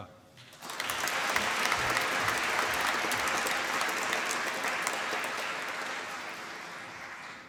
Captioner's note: applause